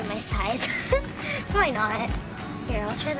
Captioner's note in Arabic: يضحك